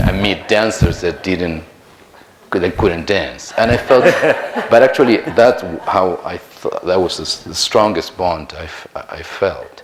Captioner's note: audience laughter